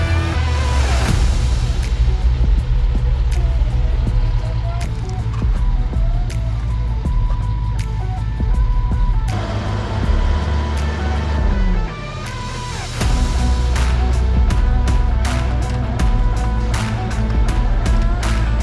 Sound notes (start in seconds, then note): 2.8 vehicle humming; 5.0 upbeat music; 5.0 wood scraping; 9.2 engine revving; 9.5 upbeat music